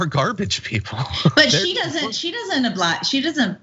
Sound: laugh

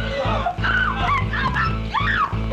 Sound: shouts loudly; cries loudly

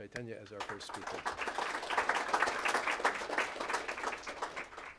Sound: applause

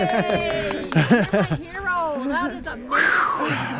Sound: applause

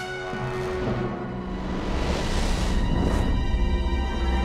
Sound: ghostly screeches

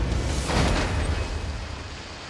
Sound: gunshot

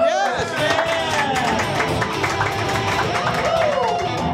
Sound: studio claps and cheers

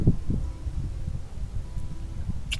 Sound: kiss

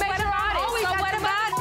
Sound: Hazel shouting

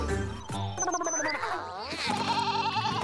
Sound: blabbering; bleating

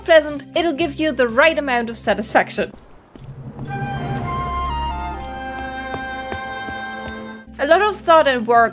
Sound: success jingle

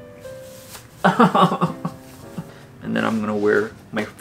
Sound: laughs

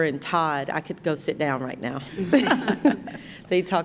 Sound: chuckles

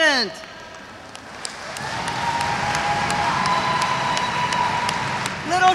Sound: audience applauds; audience cheers

